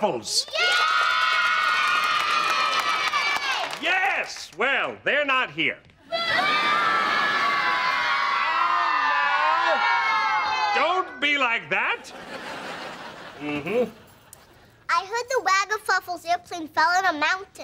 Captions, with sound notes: [cheering] Yes. Well, they're not here. [booing] Now, now. Don't be like that. Mm-hmm. I heard the Waggafuffles' airplane fell on a mountain.